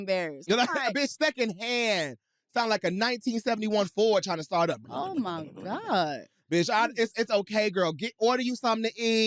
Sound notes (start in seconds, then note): 4.7 growls